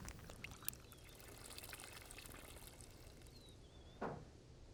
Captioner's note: footsteps; pouring